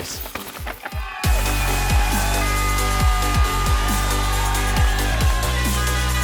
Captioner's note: crowd cheering; upbeat music